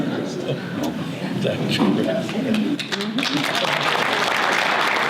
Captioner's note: audience applause